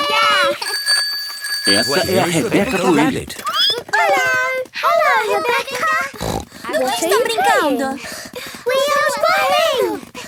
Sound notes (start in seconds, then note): 0.1 bike bell; 6.1 snort